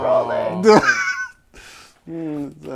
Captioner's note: laughter